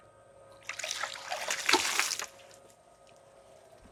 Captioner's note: water splashes